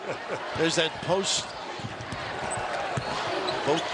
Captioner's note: laughter